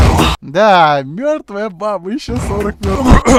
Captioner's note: ahem